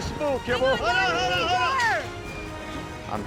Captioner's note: shouting